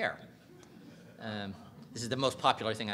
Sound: audience chuckling

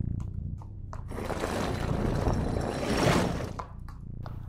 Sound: bucket being pushed along stone floor

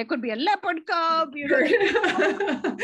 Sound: laughs

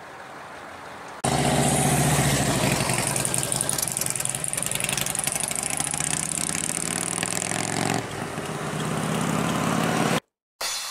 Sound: motorcycle noise

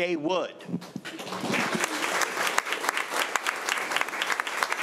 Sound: crowd clapping

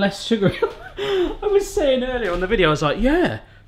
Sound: laughs

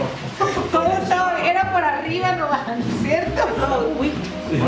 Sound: laughing and speaking spanish

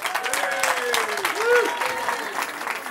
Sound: cheering

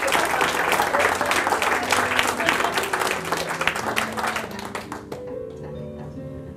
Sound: applause

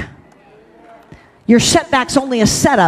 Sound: congregation cheers

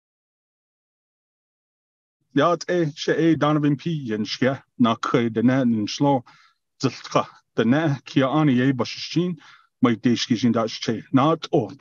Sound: foreign Language

